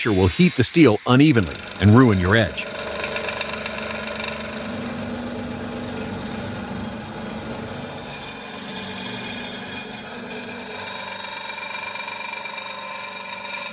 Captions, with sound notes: Shaping the handle (tang) on a disc sander Grinding the pommel ring on the disc sander